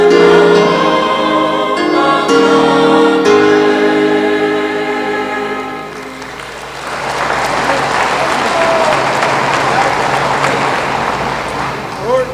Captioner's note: applause